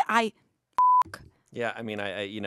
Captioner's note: laughs; beep